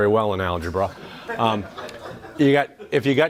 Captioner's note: audience laughs